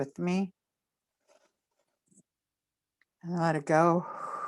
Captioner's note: inhales; exhales